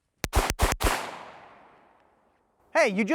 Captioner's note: gunshots